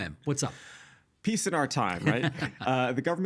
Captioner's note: laughing